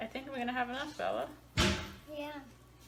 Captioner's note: toilet lid slams